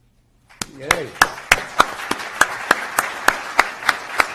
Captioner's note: applause